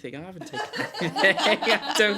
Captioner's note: laughter